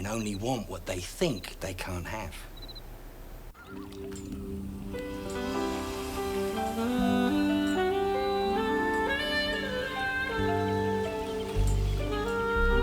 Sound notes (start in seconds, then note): 3.6 birds chirping; 3.6 gentle groovy music